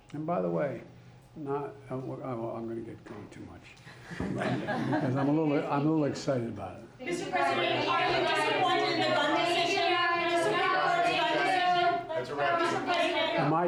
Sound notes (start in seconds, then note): 3.9 laughter